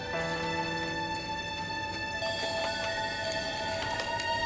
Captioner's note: copier whirs